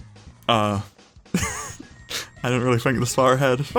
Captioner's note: professional youtuber wheeze